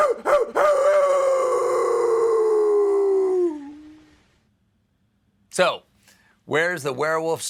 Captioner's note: howls